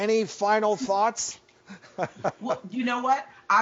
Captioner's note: laughs